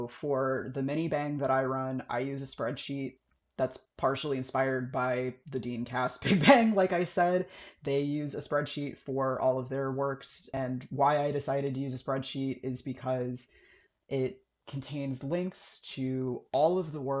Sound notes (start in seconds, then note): 6.2 laughs